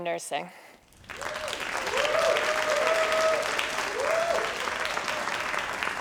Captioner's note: crowd cheering and applauding